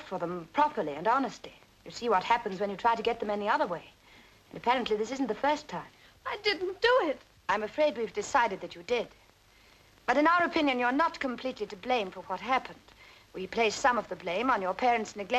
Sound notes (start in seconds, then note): none